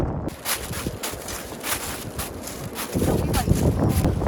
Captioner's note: plastic boots heading forward